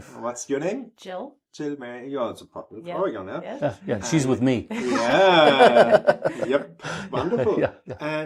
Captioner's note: laughter